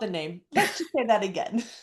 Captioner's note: laughs